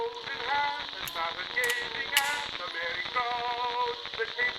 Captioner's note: song playing louder, Connie's revolver clicks